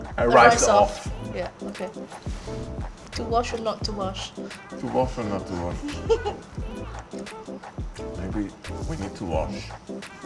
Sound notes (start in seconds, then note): 5.7 laughs